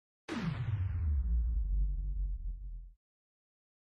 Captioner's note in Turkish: Ağır Çekim Ses Efekti